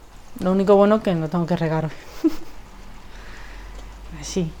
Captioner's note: laugh